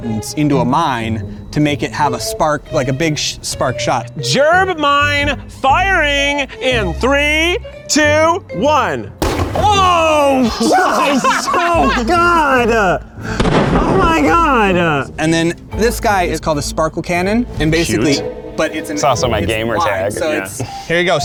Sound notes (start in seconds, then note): 9.2 gerb mine exploding; 10.3 laughing; 13.3 gerb mine exploding